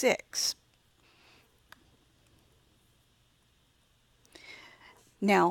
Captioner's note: silent